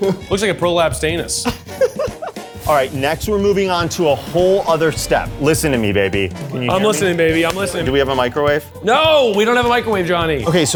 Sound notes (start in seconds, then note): 1.4 laughs